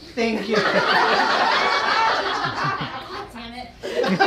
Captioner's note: laughing